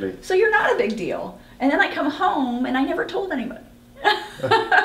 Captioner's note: laughs